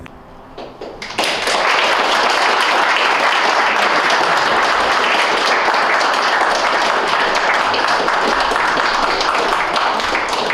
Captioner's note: applause